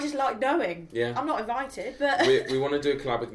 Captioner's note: chuckles